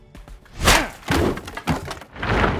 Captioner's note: grunts